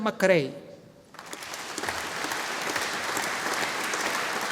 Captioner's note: audience applauding